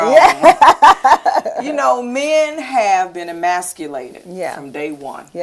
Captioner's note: laughter